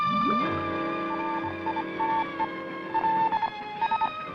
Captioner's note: sonar beeping